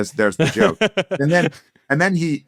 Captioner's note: laughs